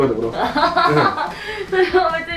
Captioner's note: hahahaha